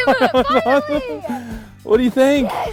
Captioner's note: laughter